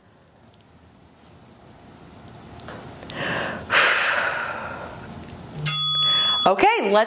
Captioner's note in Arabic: زفير; قرع الجرس